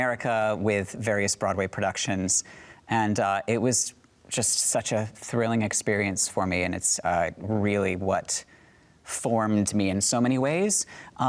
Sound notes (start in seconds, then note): none